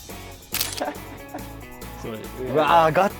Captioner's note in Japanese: シャッター音